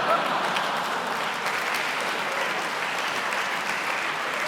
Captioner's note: laughing and applauding